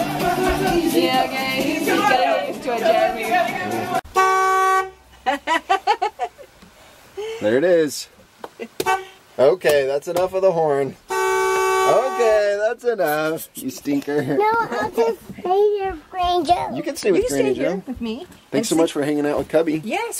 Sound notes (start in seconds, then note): 3.9 horn honk; 11.0 horn honk